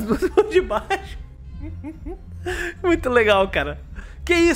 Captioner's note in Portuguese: risos